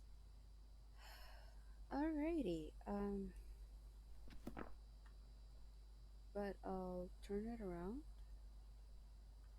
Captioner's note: deep sigh